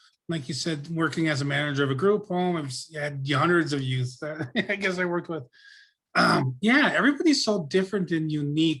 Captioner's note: laughs; clears throat